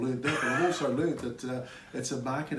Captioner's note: laughing